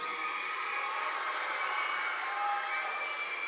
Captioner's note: crowd cheering